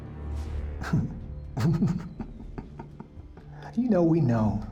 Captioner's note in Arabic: يضحك